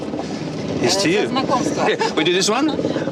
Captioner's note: speaks ukrainian